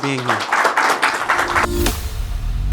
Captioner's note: audience applauding; bright upbeat music